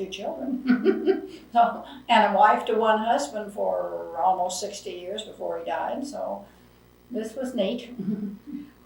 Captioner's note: laughs